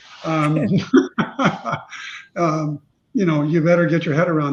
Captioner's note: laughing